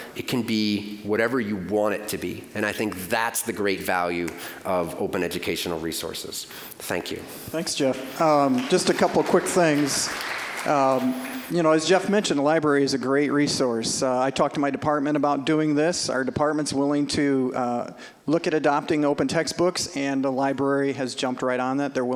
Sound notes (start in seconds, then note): 8.3 applause